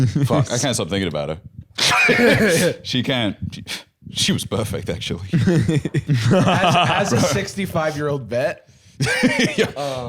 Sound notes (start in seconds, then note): 1.8 laughs; 5.7 bb laughing; 9.0 laughs